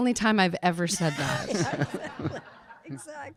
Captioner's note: audience laughing